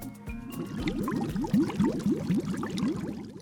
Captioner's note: water bubbling